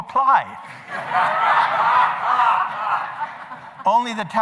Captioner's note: laughing